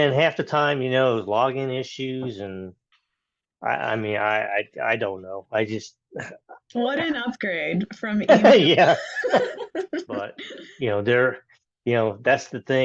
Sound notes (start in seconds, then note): 8.2 both laugh